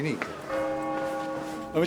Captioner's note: bell tolling